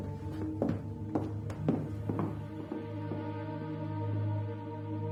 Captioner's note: footsteps residing